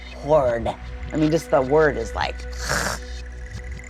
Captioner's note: gags